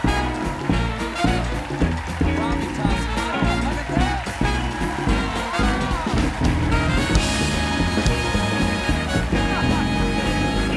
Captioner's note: applause